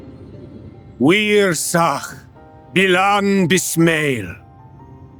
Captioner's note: speaking in foreign language